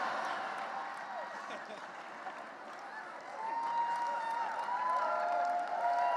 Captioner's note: cheering and laughter